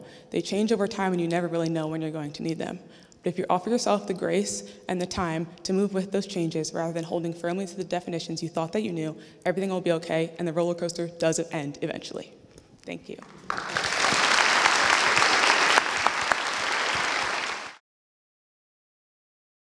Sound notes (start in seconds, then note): 13.2 applause